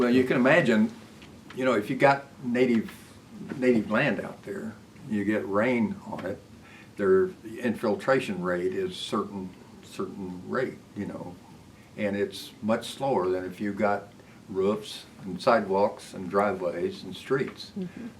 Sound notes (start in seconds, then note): none